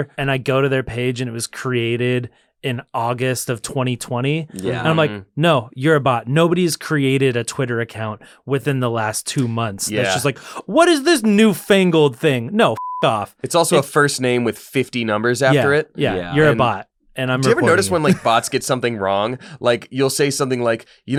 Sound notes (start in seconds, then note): 12.7 beep